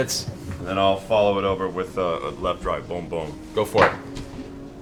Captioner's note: boom, boom